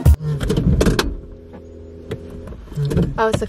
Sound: humming noise

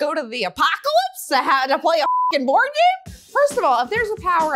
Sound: beep

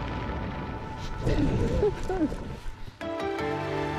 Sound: chuckles

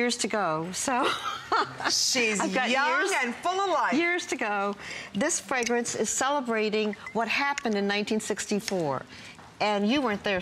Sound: laughter

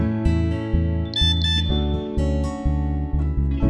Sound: message tone beeps

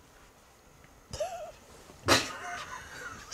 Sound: laughing

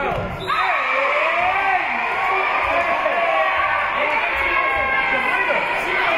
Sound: whistle being blown; spectators cheering

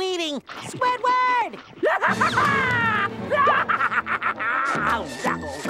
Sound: laughing maniacally

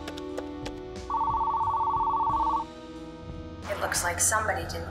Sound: phone rings

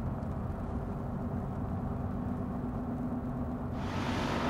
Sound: bus idling

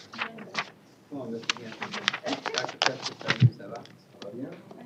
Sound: indistinct chatter

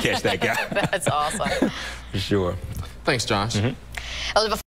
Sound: laughter

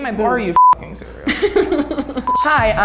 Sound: beep

